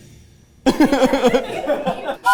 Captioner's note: everyone laughing; train whistle blowing